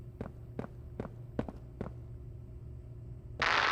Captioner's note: footsteps